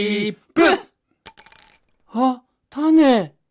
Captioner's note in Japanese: 何かが落ちる音